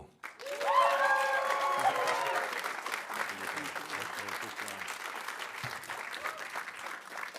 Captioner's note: audience applauding; audience cheering